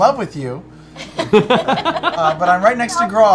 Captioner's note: laughter